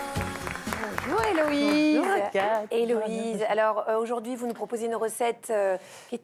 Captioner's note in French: applaudissements